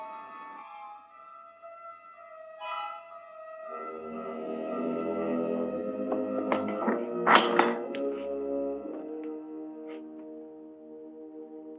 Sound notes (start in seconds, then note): 6.1 unlatching door